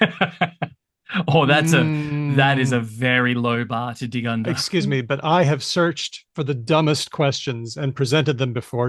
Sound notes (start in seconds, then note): 0.0 laughs